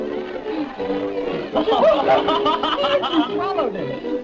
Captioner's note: laughter